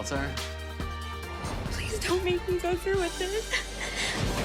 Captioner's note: voice breaking